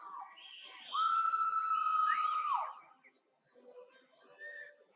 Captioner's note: audience cheers continue